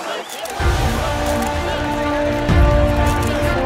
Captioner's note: Camera click